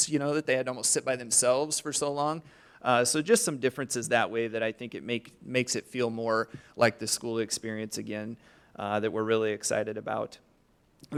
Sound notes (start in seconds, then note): none